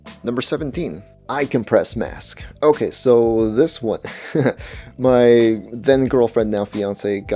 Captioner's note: laughs